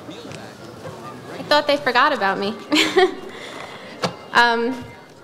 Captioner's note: laughs